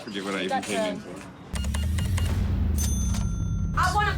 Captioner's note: beeping; cash register dings